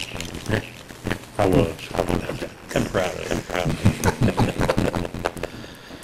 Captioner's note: laughter